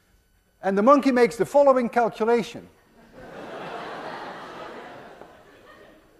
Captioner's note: class laughs